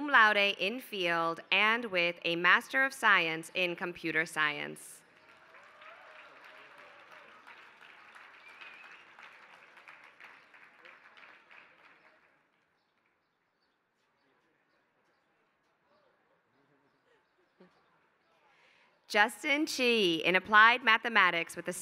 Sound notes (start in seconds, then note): 5.0 applause